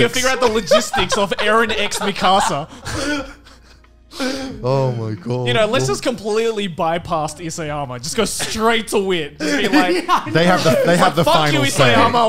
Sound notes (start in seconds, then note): 2.8 laughing